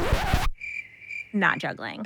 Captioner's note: record screeching; cricket chirping